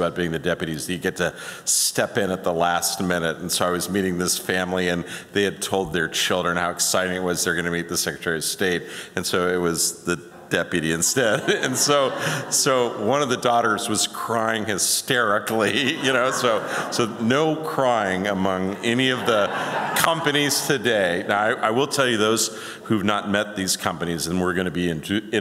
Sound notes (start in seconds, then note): 15.6 laughter